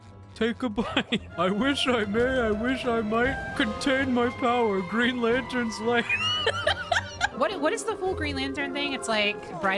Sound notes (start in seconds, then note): 0.0 Patrick Voice; 6.0 laughter